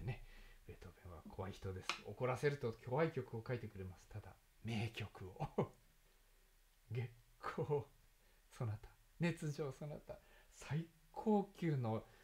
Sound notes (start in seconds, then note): 5.3 laughs